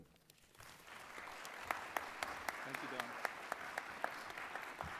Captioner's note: applause